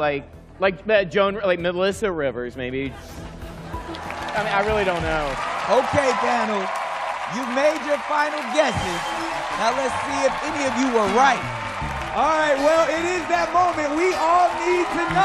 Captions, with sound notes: like Joan-- like Melissa Rivers, maybe. I mean, I really don't know. [applause] OK, panel. You've made your final guesses. Now let's see if any of you were right. All right, well, it is that moment. We all need to know.